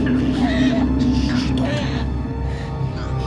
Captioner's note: gasping